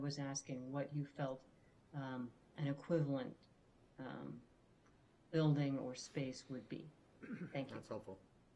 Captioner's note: clears throat